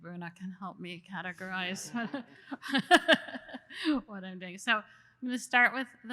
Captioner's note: laughs